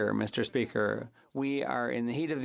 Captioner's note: speaking French